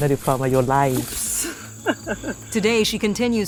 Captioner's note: chuckles